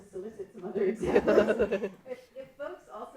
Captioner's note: laughing